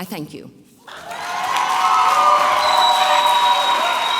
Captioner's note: audience cheering